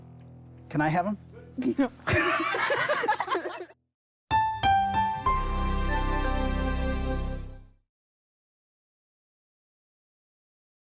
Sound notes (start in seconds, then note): 1.4 both laughing; 4.3 mellow music